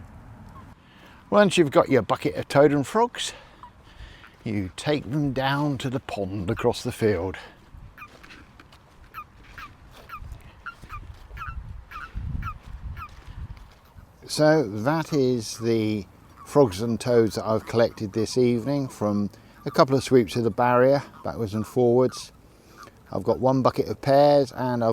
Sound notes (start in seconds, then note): 8.4 chirping sound from frogs and toads in the buckets